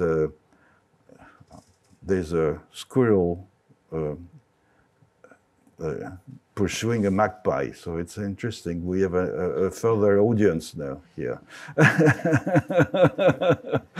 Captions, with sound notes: There's a squirrel pursuing a magpie, so it's interesting. We have a further audience now here. (laughs)